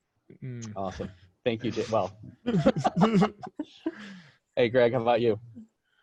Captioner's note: laughing